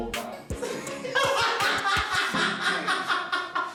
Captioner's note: laughing